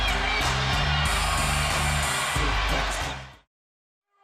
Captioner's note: crowd cheering